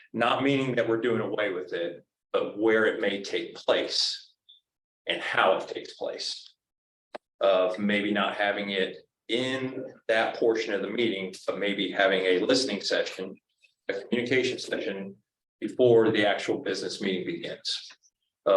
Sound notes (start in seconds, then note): none